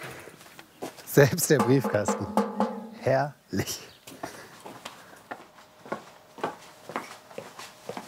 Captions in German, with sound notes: Selbst der Briefkasten, herrlich. *Schritte*